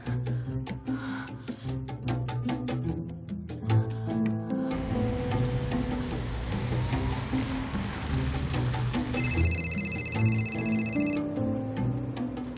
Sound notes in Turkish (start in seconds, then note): 9.1 Telefon çalar